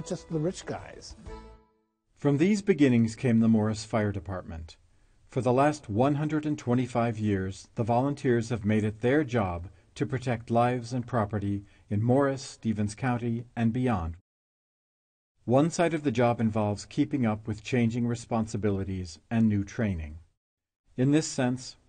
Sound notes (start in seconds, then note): 2.9 voiceover